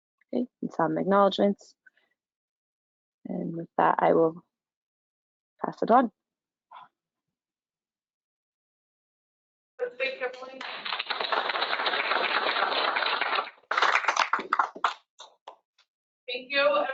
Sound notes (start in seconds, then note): 9.9 applause